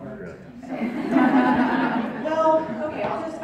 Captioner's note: crowd Chuckling